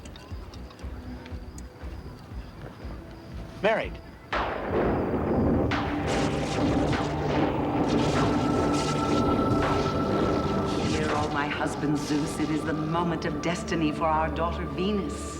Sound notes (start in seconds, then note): 4.2 thunderclap